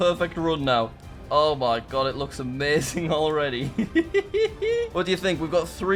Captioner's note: laughs